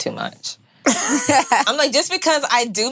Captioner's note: women laughing